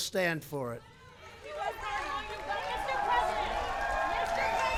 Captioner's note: applause